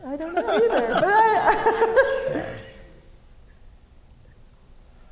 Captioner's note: audience laughing